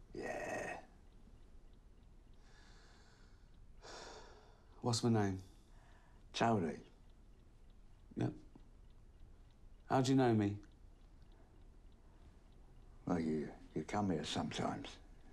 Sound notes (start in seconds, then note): 3.7 sighs